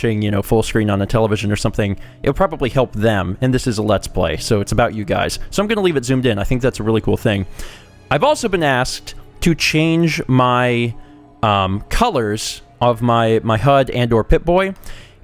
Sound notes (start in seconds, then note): none